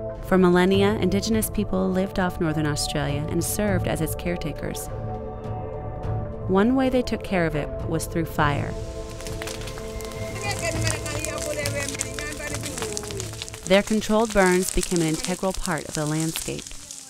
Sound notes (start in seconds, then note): 8.6 fire crackles